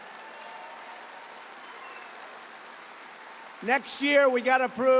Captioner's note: applause